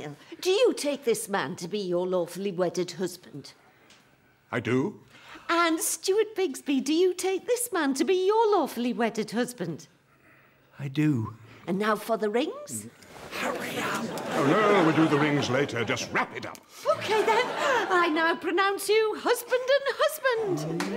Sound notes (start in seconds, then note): 13.4 whispers; 20.6 guests clap